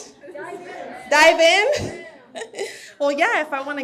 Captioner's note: laughs